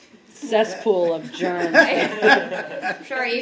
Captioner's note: laughter